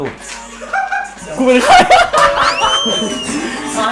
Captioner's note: laugh